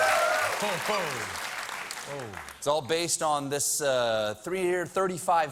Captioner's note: cheers and applause